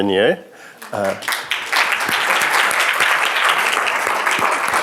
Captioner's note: applause